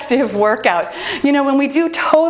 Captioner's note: bell dinging